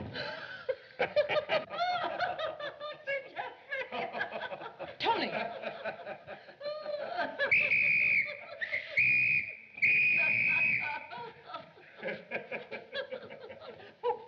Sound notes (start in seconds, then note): 1.4 Landlady Speaking French; 7.4 whistle Blowing; 10.1 landlady Continues Laughing